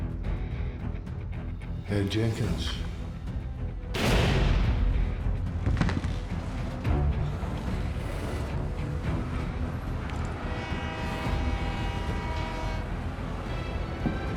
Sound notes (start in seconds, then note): 2.0 scottish accent; 3.9 gunshot fired; 5.6 jenkins thuds on ground; 10.2 match clatters, train horn